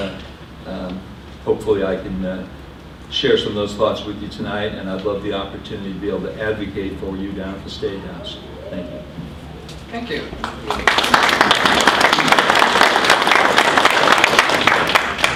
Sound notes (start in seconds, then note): 10.4 applause